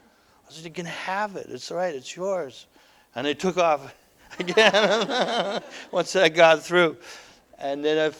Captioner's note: audience: Laughter